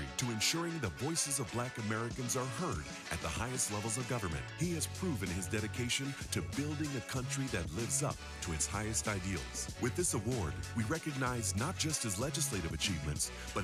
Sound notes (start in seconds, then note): none